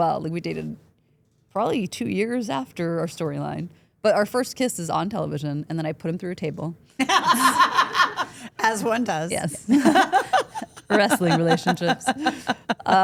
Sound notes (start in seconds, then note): 7.0 Steph laughs